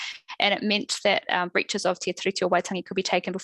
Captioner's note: non-english speech